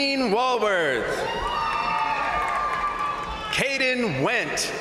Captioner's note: crowd cheering; crowd applauding